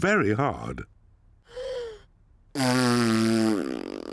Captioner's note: inhales, blows raspberry